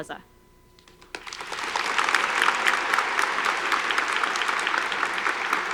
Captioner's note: audience applauding